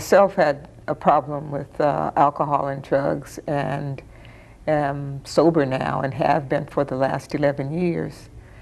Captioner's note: none